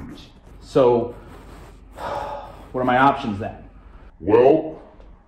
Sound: sighs

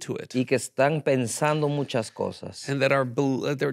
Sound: speaking in Spanish

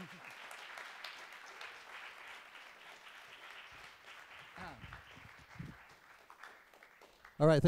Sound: applause

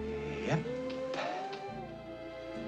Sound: sighing

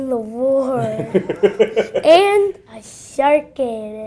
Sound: laughter

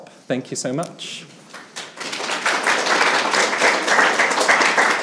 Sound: attendees applauding

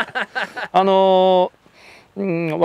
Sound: laughter

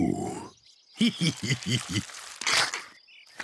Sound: laughs

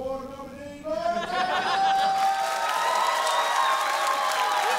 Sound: applause

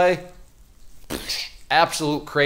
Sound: blows air

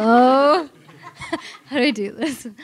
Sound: audience laughs

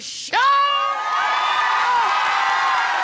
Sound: audience cheering

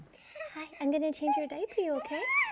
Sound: baby cooing

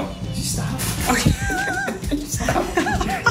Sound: both laughing

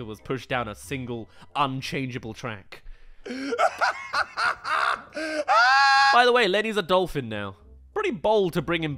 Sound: laughs

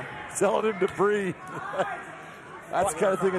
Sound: laughing

